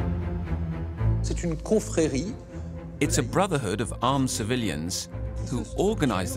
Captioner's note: speaking French